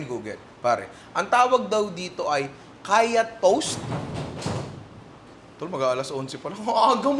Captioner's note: thuds